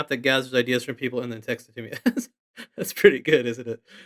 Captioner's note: chuckles